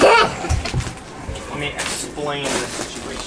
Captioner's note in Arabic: طفل يضحك